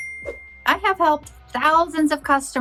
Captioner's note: whooshes